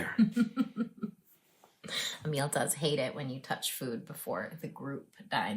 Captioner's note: laughs